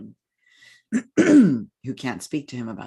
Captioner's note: clears throat